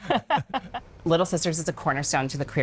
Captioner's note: both laughing